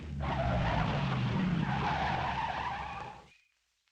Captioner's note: tires squeal